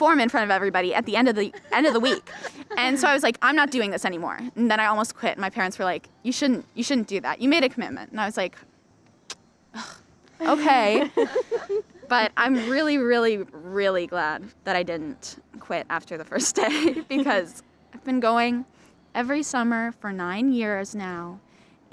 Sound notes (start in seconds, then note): 9.3 scoffs; 10.9 laughter